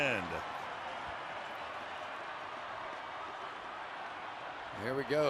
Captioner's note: cheering